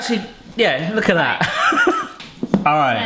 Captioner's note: laughs